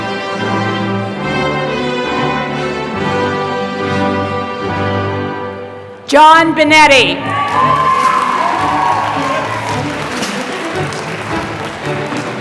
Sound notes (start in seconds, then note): 7.4 applause